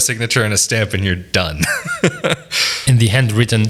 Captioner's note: laughs